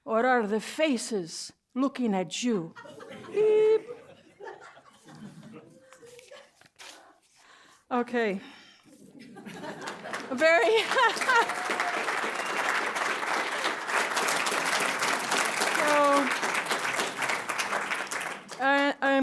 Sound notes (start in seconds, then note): 2.7 laughter; 9.0 laughter; 10.8 laughs; 11.4 applause